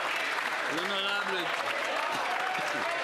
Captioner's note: applause